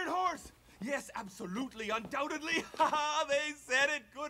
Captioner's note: chuckles